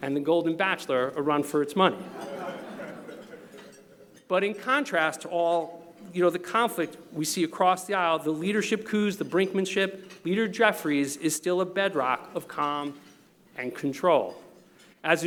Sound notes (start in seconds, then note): 2.0 laughter